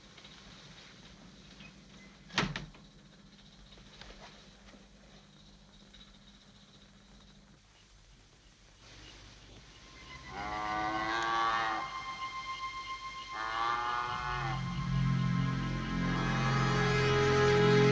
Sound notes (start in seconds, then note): 2.3 door shutting; 10.2 cow mooing; 15.2 ominous music